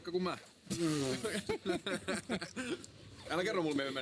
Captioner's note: laughter